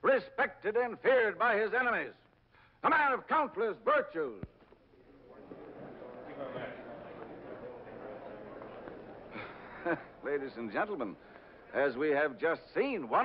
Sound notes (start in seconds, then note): 4.7 audience murmurs; 10.0 chuckles